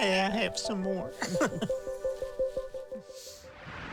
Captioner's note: both laugh